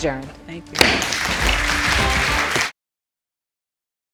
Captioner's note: audience applauding